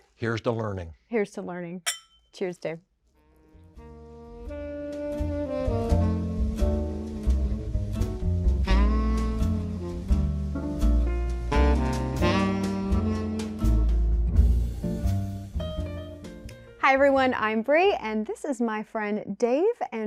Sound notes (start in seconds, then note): 1.8 glasses clicking; 4.1 jazz music